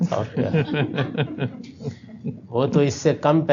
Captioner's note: laughter